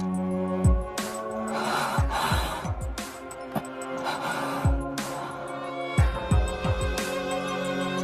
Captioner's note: gasp